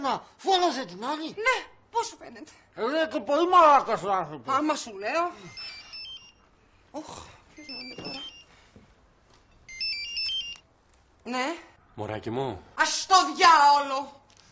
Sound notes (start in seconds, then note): 5.3 cellphone rings